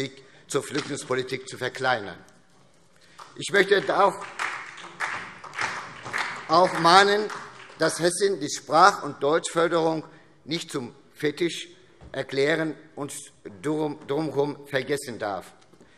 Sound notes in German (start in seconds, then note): 3.1 Beifall SPD